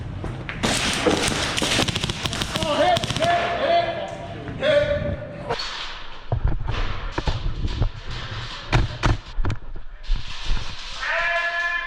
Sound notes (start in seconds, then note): 0.6 shots; 5.1 hit